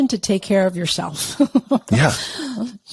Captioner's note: laughs